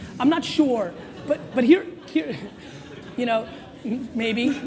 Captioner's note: audience laughs